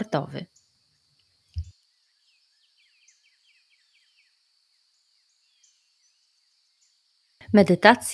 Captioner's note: sounds of nature